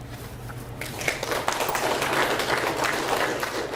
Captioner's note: audience applauds